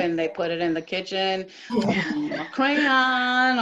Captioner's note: laughter